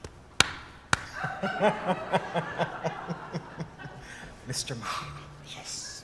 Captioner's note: laughter